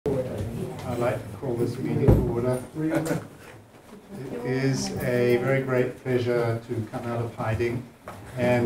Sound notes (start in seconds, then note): 2.5 chuckling